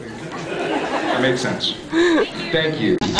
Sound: scattered laughs

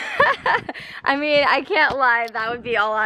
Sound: laughs

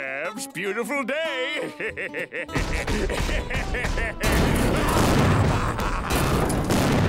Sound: laughing

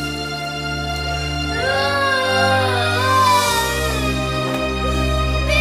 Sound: Nina continues wailing

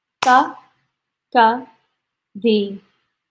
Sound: counts in foreign language; claps; counts in foreign language

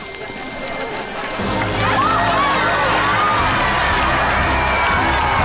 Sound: cheering

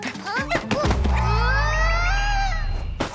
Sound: grunts

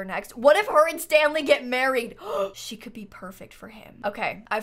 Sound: gasps

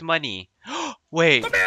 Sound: gasp

